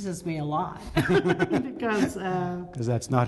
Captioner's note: laughter